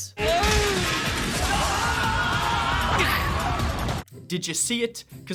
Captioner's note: crowd screaming